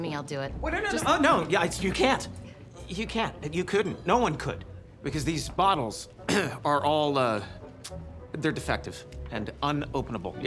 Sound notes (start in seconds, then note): 6.2 clears throat